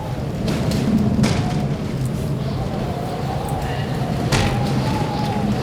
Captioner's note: wind continues howling, thudding